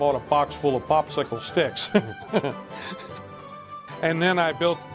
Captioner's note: laughs